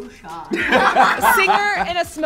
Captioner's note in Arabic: كلاهما يضحك